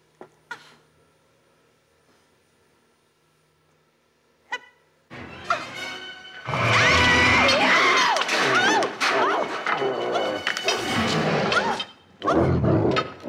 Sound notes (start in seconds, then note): 5.1 dramatic music; 6.5 Donald growls; 7.4 Anna yells